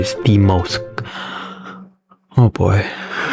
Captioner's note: inhales Oxygen